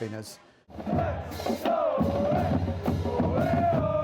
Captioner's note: chanting